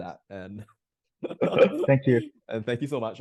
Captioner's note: laughing